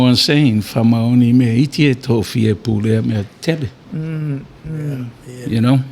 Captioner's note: speaking in foreign language